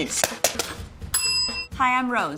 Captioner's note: bell dinging